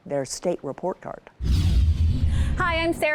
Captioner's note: air whooshes